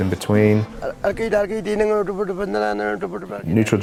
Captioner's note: speaks in Indigenous language